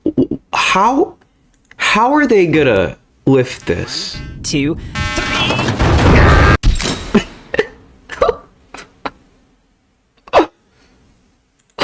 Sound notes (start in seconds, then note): 0.1 stutter Moment; 7.1 laughs to myself